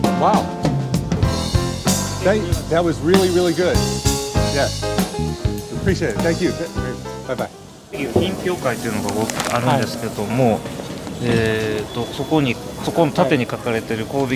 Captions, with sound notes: Wow. Thank, that was really, really good. Yes, appreciate it, thank you. Bye bye. (vendor and interviewer conversing in a foreign language)